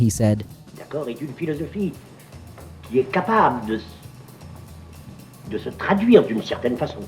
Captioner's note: philosopher speaking in foreign language